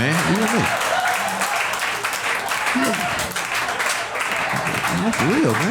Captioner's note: audience applauding